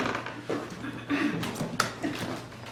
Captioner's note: creaking